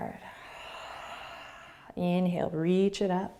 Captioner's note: exhaling